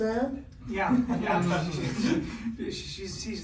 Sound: everyone laughing

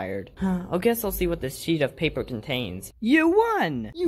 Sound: sigh

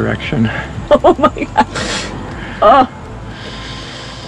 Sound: laughing

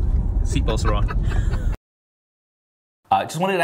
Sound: laughter

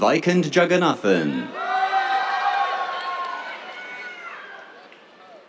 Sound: cheers, applause

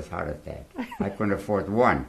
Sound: laughs

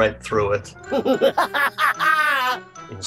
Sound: AGIMUS laughs

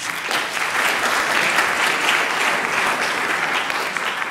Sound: clapping

